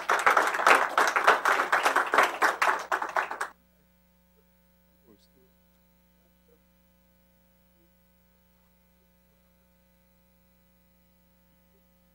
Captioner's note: applause